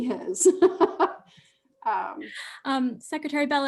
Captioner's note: laughing